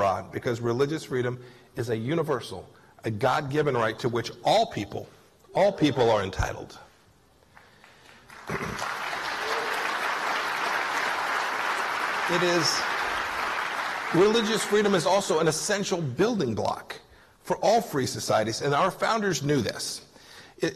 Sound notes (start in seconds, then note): 7.5 applause